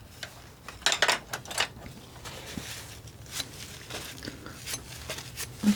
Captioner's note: scratching